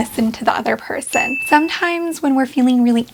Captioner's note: bell dings